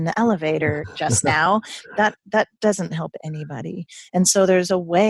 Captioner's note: laughing